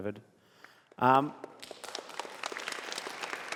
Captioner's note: applause